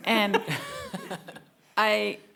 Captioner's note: panelists laugh